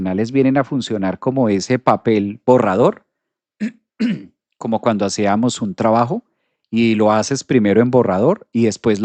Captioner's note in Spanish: carraspeo